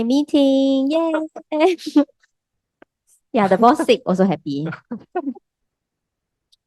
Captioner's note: laughters